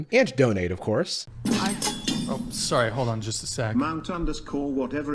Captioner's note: donation alert